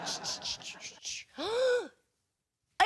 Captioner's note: audience laughing